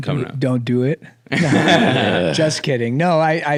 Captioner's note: everyone laughs